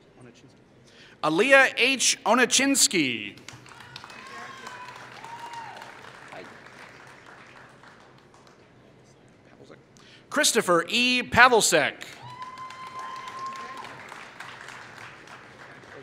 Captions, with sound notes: Alaya H. Onicinski [Applause] Christopher E. Pevalseck [Applause]